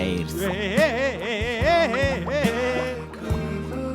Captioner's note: fish laughs